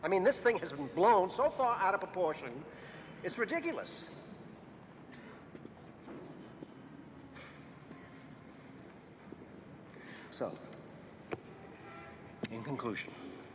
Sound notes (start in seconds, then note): 5.8 feet clacking